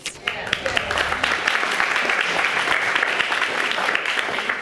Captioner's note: audience applauding